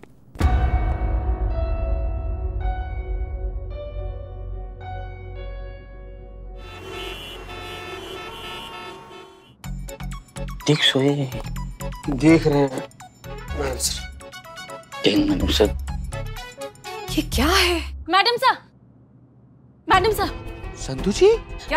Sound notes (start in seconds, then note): 0.3 tense music plays; 6.5 honking